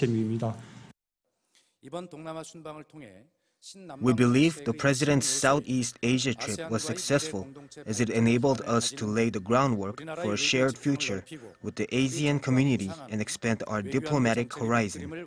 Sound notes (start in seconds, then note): 4.3 Korean